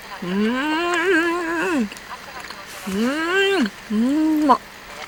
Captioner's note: swelling voice